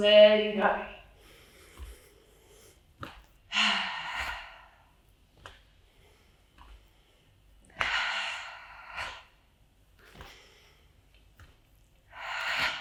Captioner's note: breathes in and out